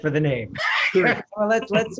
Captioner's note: laughter